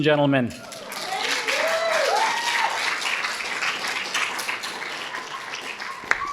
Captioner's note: audience cheering and applauding